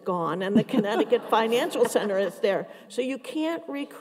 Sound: everyone laughs

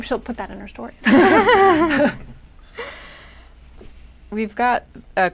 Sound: laughter

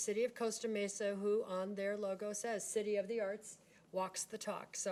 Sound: none

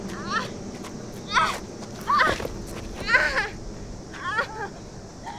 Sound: Morgan sobbing

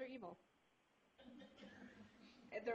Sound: laughter

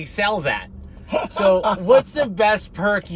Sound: laughs

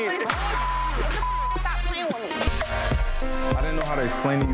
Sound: beep

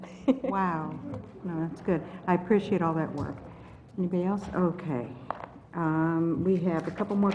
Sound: laugh

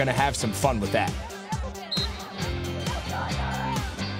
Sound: whistle blowing

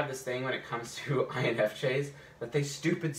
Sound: chuckles

